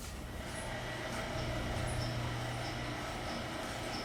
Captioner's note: machine whirring